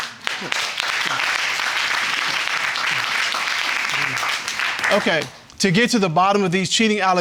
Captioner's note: audience applauding